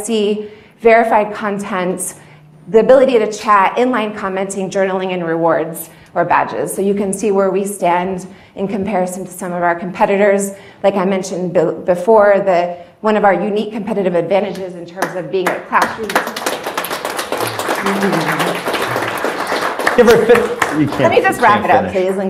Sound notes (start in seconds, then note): 15.4 audience clapping